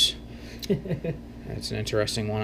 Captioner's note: chuckles